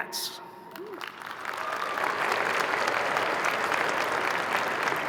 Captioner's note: crowd applauding